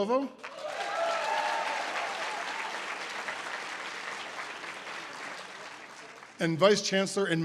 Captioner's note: audience applause